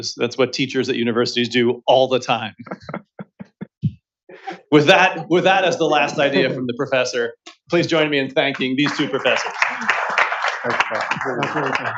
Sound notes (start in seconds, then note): 2.8 laughter